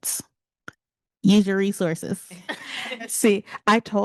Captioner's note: panelist laughing